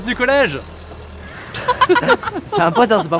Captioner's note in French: rires